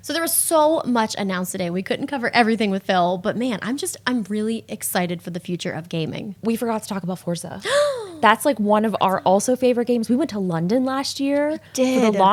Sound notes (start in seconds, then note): 7.6 gasps